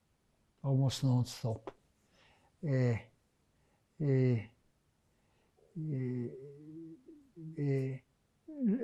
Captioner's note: pauses 6 seconds